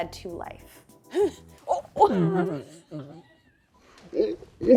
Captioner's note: grunting; grunting in slow-motion